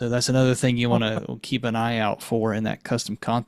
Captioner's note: chuckling